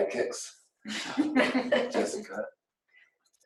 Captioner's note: laughs